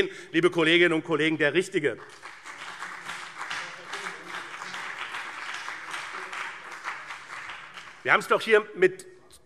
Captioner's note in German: Beifall BÜNDNIS 90/DIE GRÜNEN und CDU